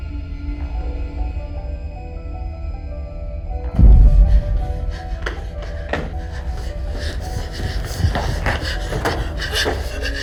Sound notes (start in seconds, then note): 2.3 tense piano music; 4.1 person panting